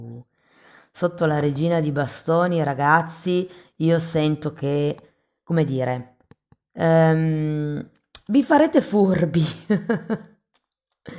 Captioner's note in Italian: risate